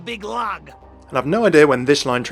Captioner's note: voiceover